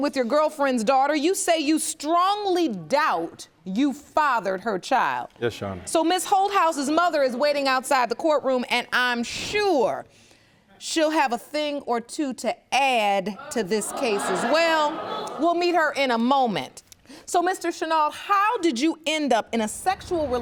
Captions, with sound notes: you say you strongly doubt you fathered her child. Yes, Your Honor. So Ms. Holthaus' mother is waiting outside the courtroom. And I'm sure she'll have a thing or two to add to this case as well. (AUDIENCE GROANING) We'll meet her in a moment. So Mr. Shinuald, how did you end up in a sexual relationship